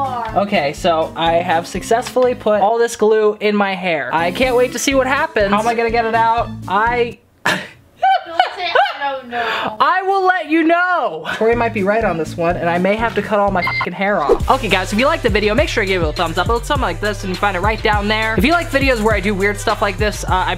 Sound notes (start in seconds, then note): 8.0 laughing; 13.6 beep